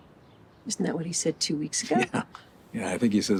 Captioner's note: chuckles